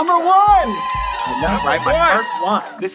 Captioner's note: applause